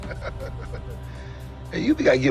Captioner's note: laughter